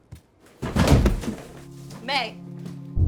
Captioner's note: May thuds on floor